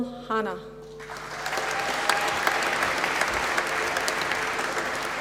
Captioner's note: applause